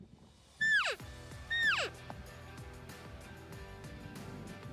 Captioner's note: elk call